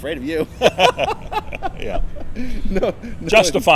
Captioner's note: laughing